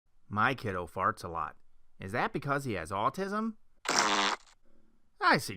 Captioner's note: fart sound